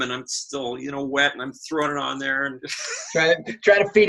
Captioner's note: laughs